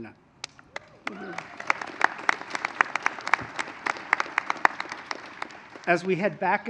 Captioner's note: applause